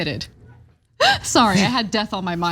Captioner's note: laugh